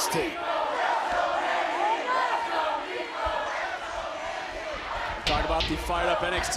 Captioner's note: crowd cheers